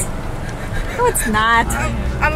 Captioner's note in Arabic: تنفس مذعور